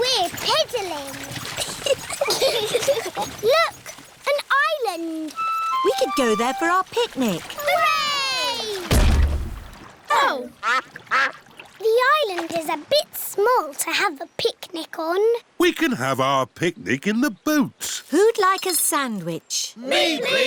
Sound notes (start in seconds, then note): 1.5 both giggle; 8.3 peppa and george cheer; 8.8 thud